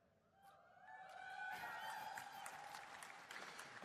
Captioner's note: applause